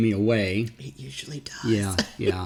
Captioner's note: laughs